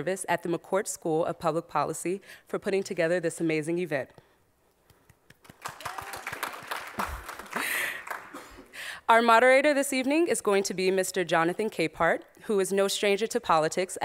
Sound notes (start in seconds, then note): 5.4 audience applauds; 7.0 chuckles